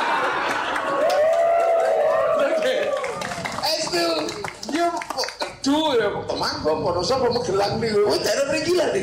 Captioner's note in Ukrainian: Оплески